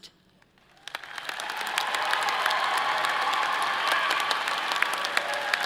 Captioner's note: audience applauding and cheering